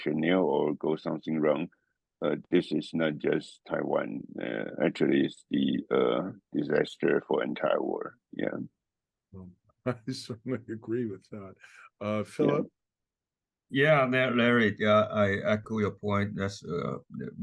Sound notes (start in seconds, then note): 9.9 laugh